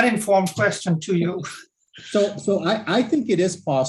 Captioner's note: laughs